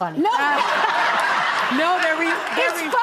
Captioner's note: audience laughing